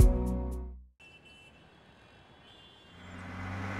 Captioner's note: car honking